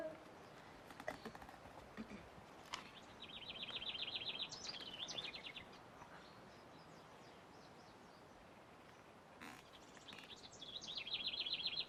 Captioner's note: birds chirping